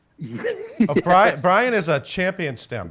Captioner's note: laughs